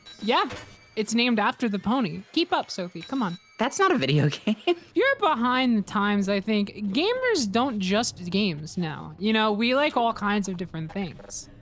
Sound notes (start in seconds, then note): 4.0 laughs